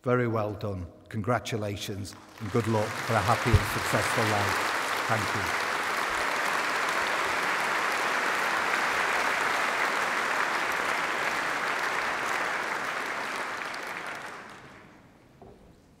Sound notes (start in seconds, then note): 6.4 applause